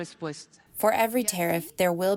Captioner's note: through translator